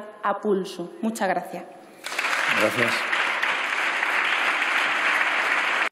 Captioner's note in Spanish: Aplausos